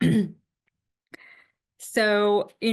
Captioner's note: clears throat